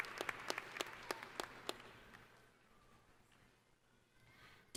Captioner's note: applause